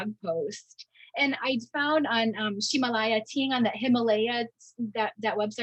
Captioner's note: speaking in Mandarin